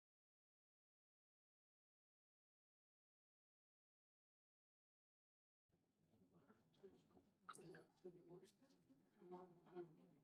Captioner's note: silence